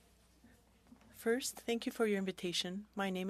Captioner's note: speaking French